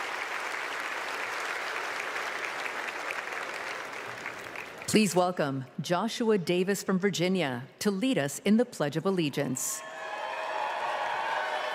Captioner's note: applause